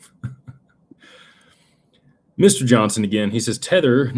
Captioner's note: laughter